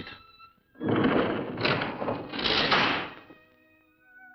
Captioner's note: lift door opens